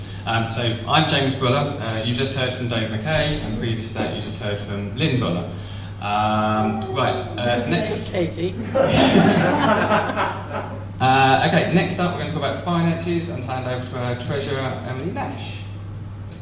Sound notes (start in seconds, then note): 8.5 audience laughs